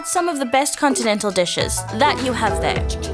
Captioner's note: Seerat to Over Phone